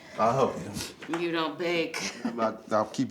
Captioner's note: laughs